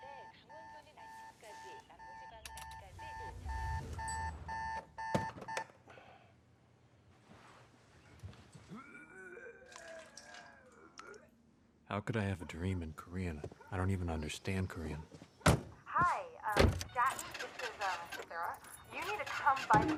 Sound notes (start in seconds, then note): 0.0 beeping sound; 4.7 beeping sound stops; 9.5 retching; 15.0 voicemail recording